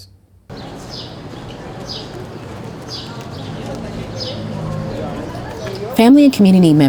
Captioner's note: birds chirping, people chattering